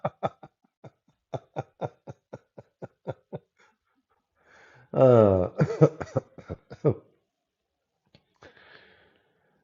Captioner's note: Ketawa